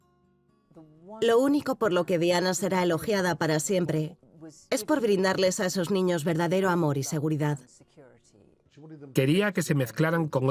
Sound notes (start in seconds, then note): 0.7 voiceover